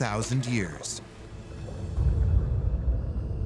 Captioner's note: deep rumble